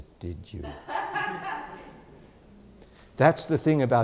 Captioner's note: audience laughs